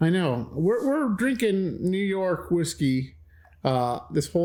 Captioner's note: exhales deeply